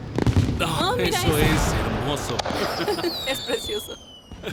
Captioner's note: Andy laughs